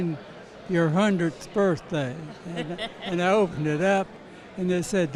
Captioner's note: interviewer laughs